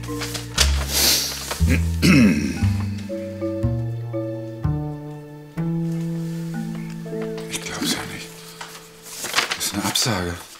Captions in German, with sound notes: (Er räuspert sich.) Ich glaub's ja nicht ... Ist eine Absage.